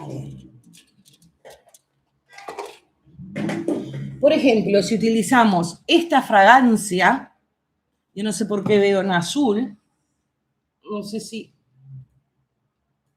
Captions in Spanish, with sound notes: [carraspeo] Por ejemplo, si utilizamos esta fragancia, yo no sé por qué veo en azul, no sé si